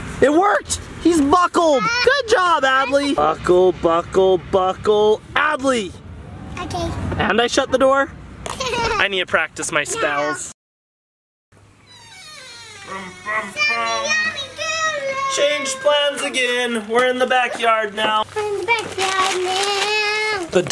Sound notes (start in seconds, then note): 11.8 gate creaking; 14.3 shouting